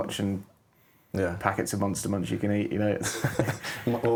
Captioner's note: laughing